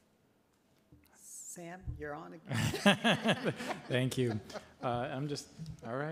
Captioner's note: laughter